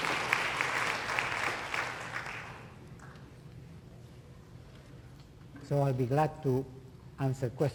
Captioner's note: applause